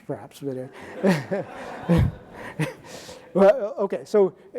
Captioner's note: audience laughing